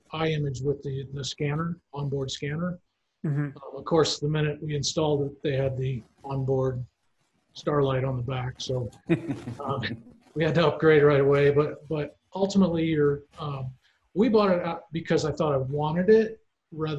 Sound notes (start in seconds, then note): 10.4 laughing